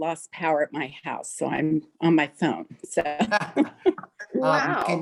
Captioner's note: laughing